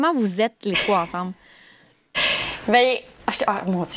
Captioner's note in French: soupire